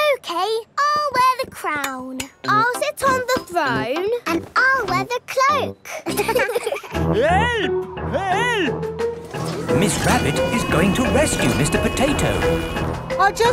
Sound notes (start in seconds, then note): 5.9 laughing